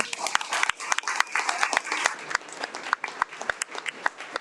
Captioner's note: audience applauds